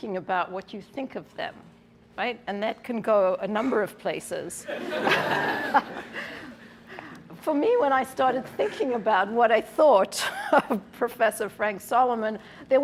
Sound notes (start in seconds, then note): 4.6 laughter